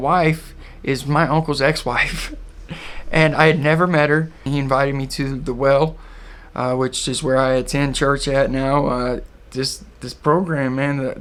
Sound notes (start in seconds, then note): 2.7 laughs